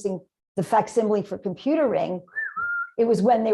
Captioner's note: whistle